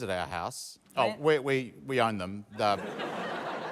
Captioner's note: laughter